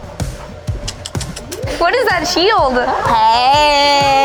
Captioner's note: bright upbeat music; group chattering; tongue sucking